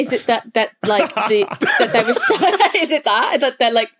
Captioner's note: group laughing